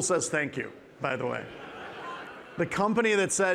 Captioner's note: participants laughing